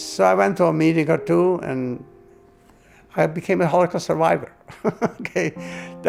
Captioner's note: chuckles